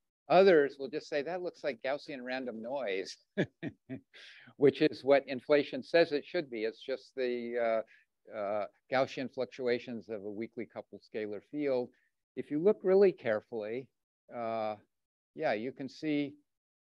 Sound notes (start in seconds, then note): 3.3 chuckles